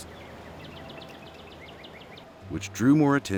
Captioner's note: birds chirping